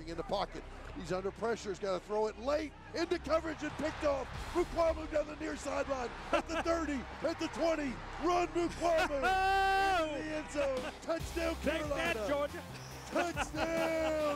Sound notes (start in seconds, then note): 10.6 laughs; 12.5 laughs